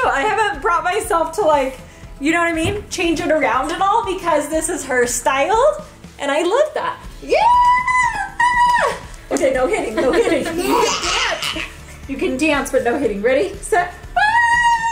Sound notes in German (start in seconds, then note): 9.8 Gelächter